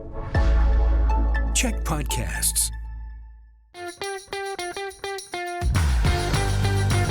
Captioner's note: announcer voice